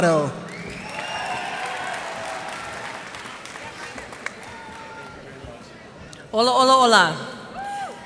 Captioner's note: cheers and applause